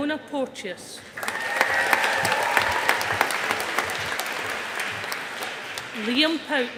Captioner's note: audience applauding